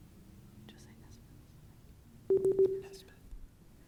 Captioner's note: timer beeping